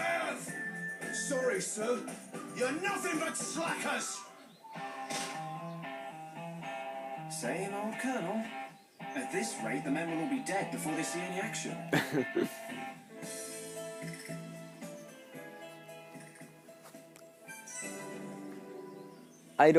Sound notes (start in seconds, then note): 1.3 laughs